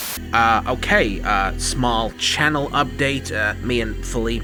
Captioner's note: static